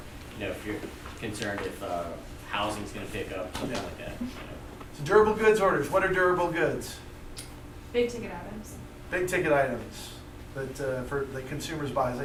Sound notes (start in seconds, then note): 7.9 voiceover